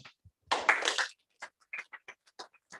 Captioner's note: applause